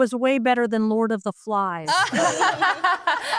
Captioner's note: group laughs